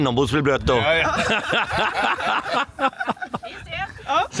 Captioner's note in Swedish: skratt